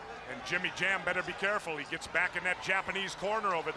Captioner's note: crowd chatter